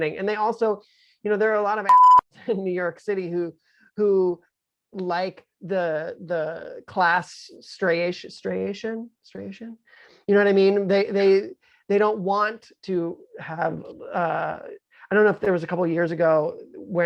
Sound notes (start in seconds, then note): 1.8 beep